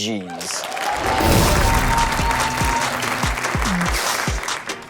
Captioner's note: audience cheers